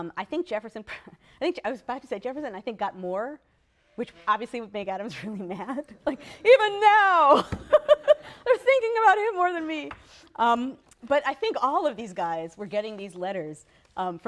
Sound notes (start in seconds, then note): 7.3 laughter/laughs